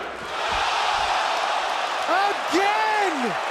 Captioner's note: crowd cheering